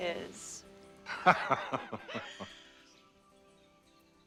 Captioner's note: cyril laughs